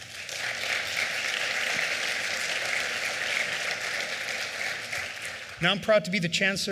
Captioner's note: applause